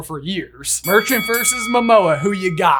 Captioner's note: bell dinging